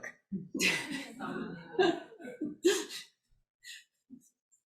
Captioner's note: audience laughs